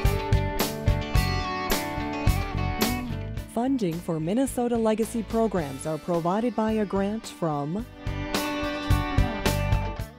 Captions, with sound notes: - [Voiceover] Funding for Minnesota Legacy programs are provided by a grant from